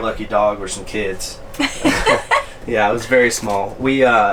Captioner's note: laughing